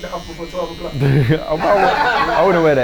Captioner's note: laughing